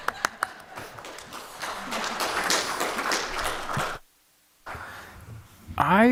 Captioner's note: applause